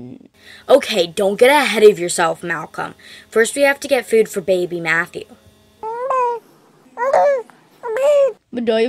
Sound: baby coos

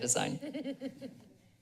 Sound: laughter

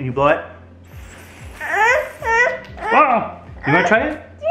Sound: blowing; speaking gibberish

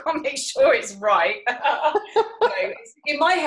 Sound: laughing

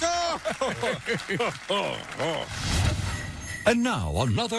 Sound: both laugh

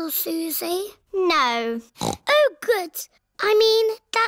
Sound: snorts

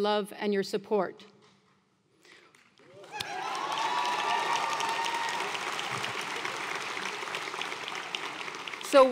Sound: applause

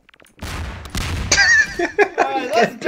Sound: explotion; laughter

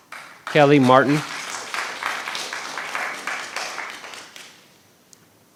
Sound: audience applauds

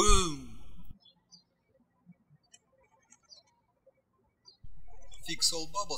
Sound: birds chirping

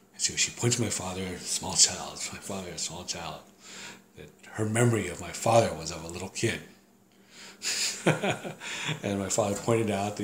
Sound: laughs

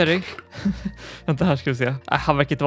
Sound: awkward laugh

